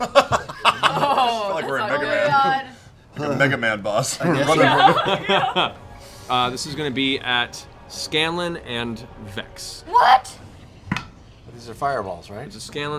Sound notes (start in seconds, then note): 4.7 laughs